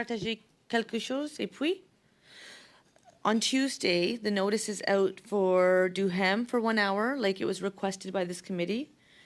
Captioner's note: speaking French